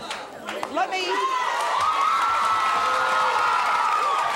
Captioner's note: cheering